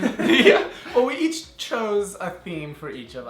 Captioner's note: laughing